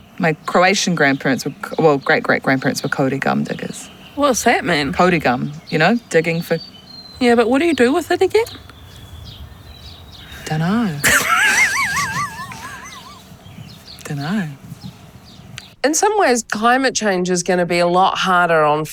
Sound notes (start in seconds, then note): 11.0 Alice laughs